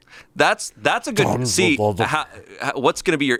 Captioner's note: grumbles